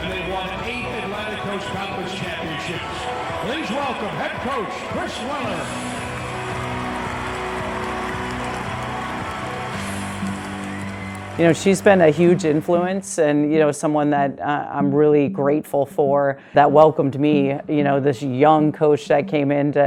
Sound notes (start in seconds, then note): 6.4 applause; 6.4 inspirational music